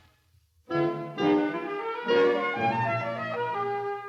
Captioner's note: horn